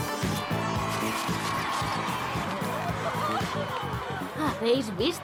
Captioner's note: cheering